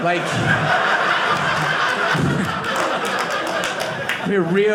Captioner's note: audience laughing